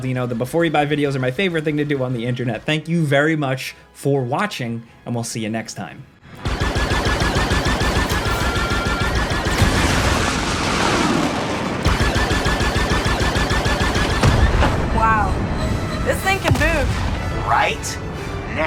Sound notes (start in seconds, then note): 6.4 lasers blasting; 9.7 spaceship whooshing; 11.9 lasers blasting; 14.1 explosion booming